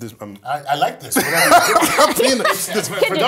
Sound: laugh

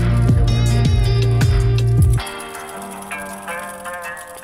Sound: bike chain rattles softly

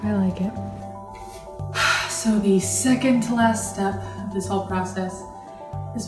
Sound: sigh

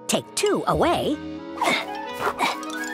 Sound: grunts

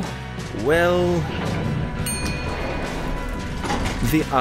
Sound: elevator noises

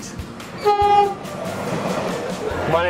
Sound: train horn blares

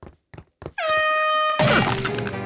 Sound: air horn blaring

